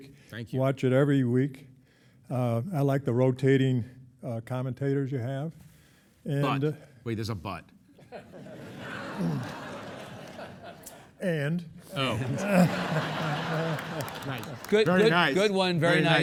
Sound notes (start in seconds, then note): 8.0 audience chuckling; 12.0 audience laughing; 12.0 chuckling